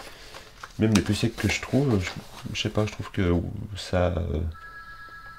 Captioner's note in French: sonnerie du téléphone